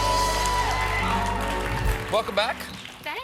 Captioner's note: applause